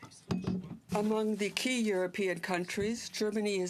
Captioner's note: speaking french